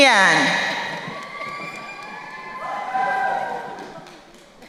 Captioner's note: crowd cheering